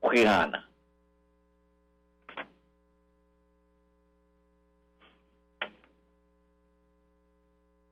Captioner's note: silence